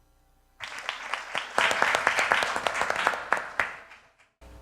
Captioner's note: applause